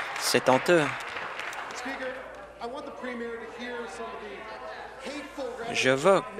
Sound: applause

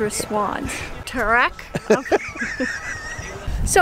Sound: laughing

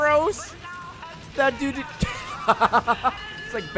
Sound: laughs

